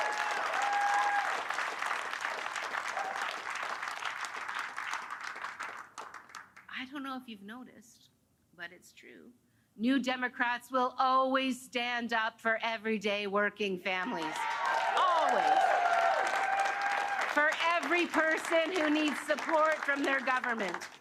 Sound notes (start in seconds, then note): 2.4 cheers and Applause; 20.3 cheers and Applause